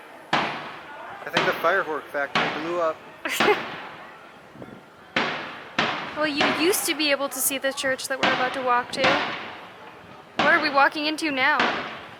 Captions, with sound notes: [Loud booms] I think the firework factory blew up! [Laughter] [Loud booms continuing...] Well you used to be able to see the church that we're about to walk to. What are we walking into now?